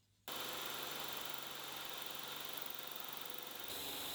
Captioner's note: machine whirring